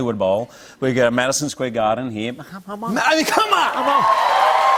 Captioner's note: cheers and applause